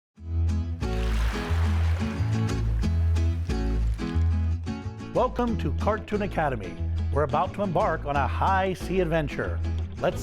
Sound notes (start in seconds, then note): 0.8 waves splashing; 0.8 upbeat music